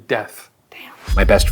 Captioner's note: whispering